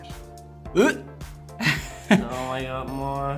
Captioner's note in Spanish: Arcada